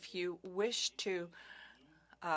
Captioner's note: speaking French